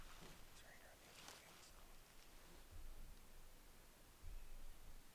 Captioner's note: faintly speaking